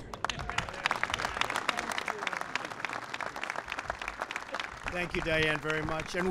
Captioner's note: applause